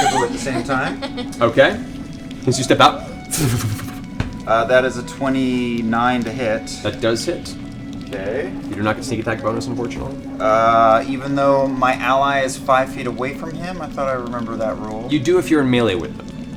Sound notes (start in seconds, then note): 0.0 laughter; 3.3 fwip